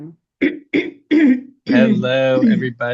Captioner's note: clears throat